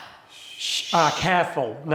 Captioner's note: students shushing